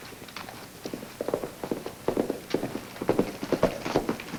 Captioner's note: hooves clomp